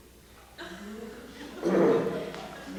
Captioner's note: laughter